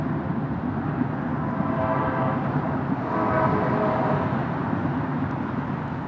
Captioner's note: train horn